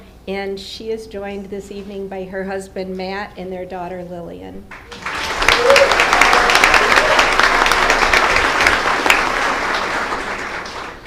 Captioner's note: applause